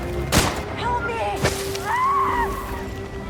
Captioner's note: screams